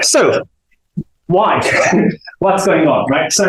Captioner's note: chuckles